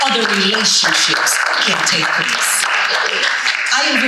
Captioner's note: audience applauding